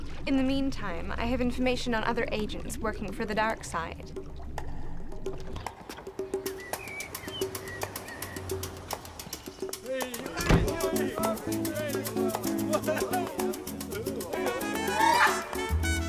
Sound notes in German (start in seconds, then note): 5.8 Vögel zwitschern; 9.7 Männer reden lebhaft; 14.2 Mann ruft vor Freude aus